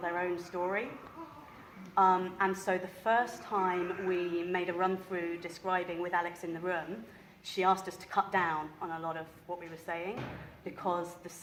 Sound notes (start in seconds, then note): none